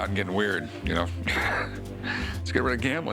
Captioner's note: laughs